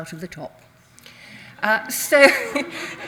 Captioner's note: audience laughs; chuckles